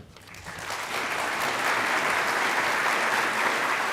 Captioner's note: applauding